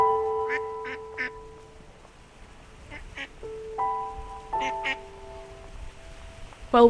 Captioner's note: background noises of ducks quacking and splashing in water; soft Piano Music